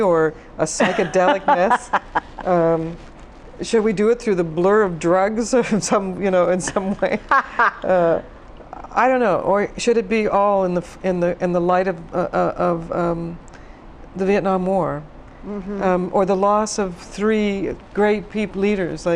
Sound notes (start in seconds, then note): 0.8 laughs; 6.7 laughs